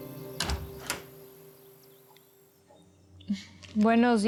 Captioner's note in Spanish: ruido al entrar